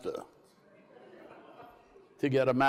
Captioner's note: crowd laughs